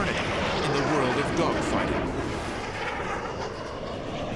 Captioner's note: jet engine noises